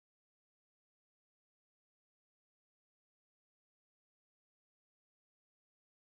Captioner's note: none